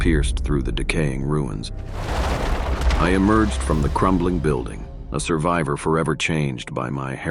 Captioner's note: crumbling